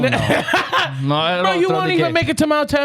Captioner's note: laughing